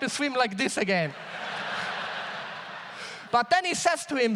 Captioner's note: audience laughs